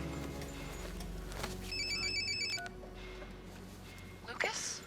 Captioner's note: alarm